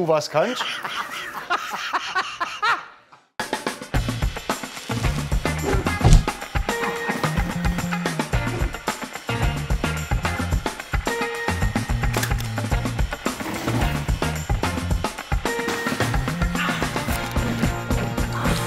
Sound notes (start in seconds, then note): 2.3 Lachen; 4.6 Dynamische Musik